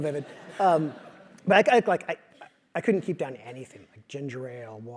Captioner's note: laugh